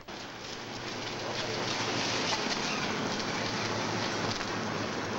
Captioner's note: car rumbling